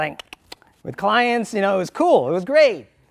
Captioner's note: clicking sound